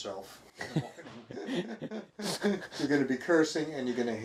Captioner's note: both chuckling